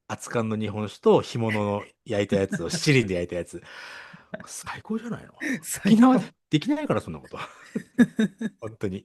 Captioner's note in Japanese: 笑い